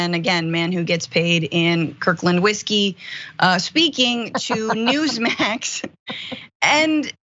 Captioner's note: laugh